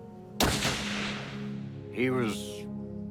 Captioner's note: gunshot